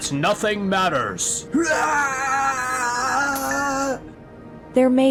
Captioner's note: screams